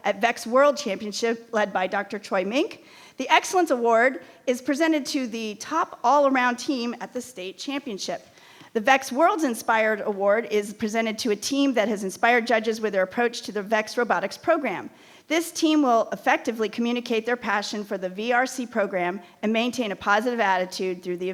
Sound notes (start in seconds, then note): none